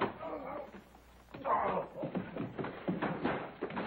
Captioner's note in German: stöhnen